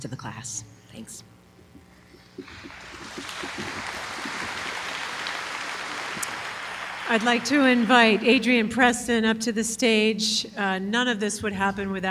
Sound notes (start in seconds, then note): 2.4 applause